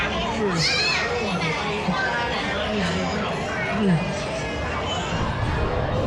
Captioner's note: yawns